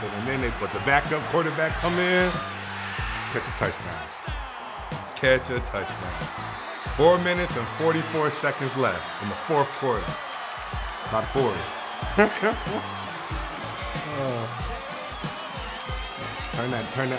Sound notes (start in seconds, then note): 3.0 fans roaring; 12.1 laughing